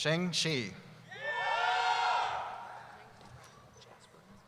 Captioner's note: cheering